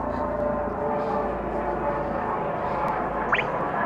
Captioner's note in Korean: 헬리콥터 소리